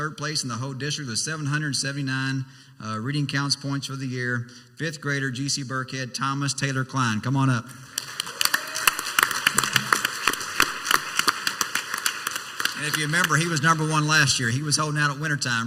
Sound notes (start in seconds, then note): 7.8 clapping and cheering